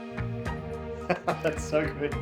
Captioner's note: laughter